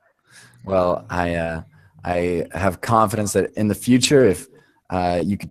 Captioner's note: voiceover